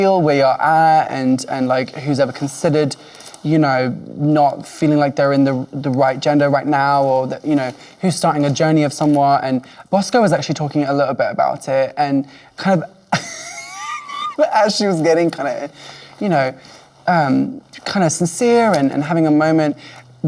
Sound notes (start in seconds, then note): 13.1 Lady Camden laughing